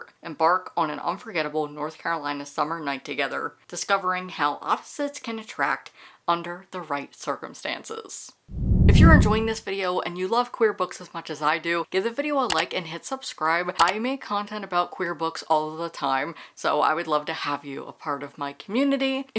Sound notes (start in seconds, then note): 8.5 whoosh; 11.8 mouse click